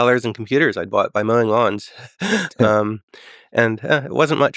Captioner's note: laughs